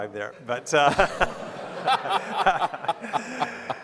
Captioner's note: laughing